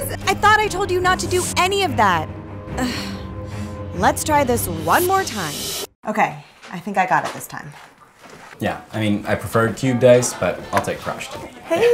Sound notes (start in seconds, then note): 2.7 sighs